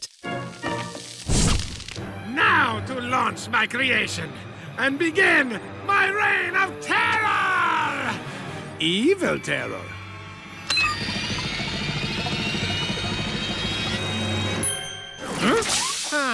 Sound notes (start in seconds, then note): 10.3 beeps; 10.8 machine whirring